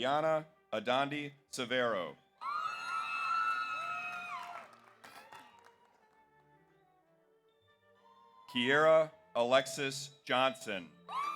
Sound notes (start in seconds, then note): 2.5 audience cheers; 2.6 audience applauds